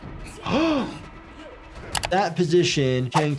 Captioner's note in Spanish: El jugador 390 habla en coreano; El doctor de urgencias jadea; locutor hablando en coreano